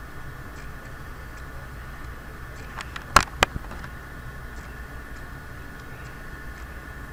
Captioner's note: students Typing